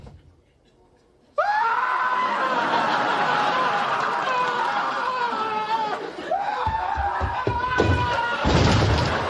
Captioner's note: Newman screams prolonged; laugh track